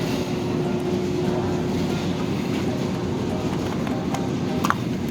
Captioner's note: supermarket sounds